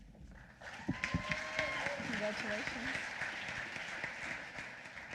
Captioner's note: applause